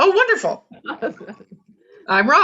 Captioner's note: laughs